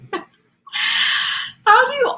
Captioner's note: laughs